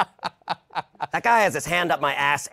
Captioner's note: laughter; normal voice